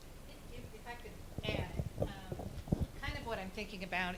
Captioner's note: speaking off mic